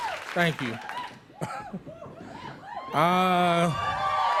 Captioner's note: cheering; cheering continues